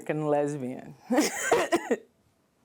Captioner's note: laughter